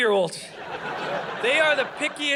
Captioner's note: audience laughing